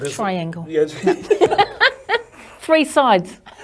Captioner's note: both laugh